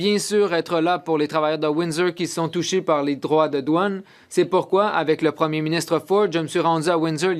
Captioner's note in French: voix de l'interprète